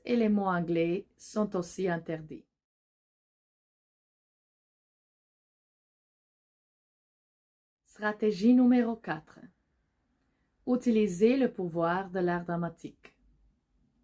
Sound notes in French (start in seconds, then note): 3.1 silence